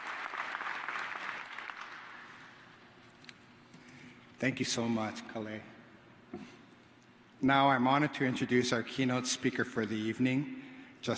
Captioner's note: applause